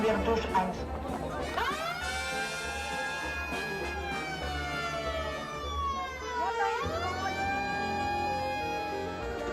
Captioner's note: siren sounds